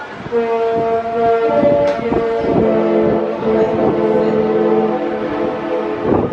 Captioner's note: ship horn plays